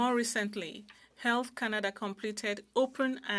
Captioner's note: speaking French